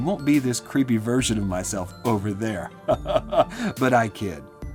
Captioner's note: laughs